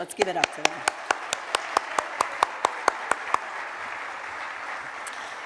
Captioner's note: applause